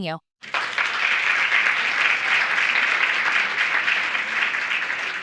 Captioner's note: audience applauding